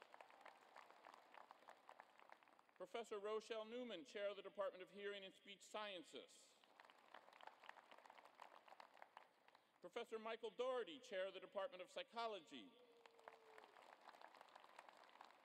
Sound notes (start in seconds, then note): 0.0 applause; 6.5 applause; 12.4 applause